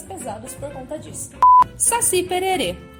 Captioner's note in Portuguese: bip